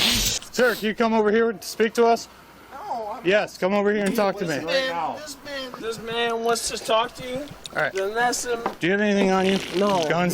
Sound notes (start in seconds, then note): 4.7 speech unbelievably slurred